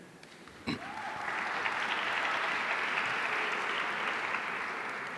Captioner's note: audience applauding